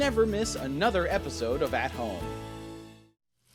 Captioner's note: none